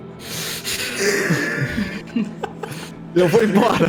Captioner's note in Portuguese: risadas